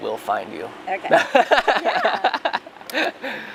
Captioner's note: laughter